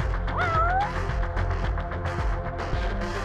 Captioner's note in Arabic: أصوات القطط